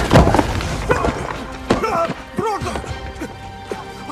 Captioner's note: Booth exclaiming; breathing heavily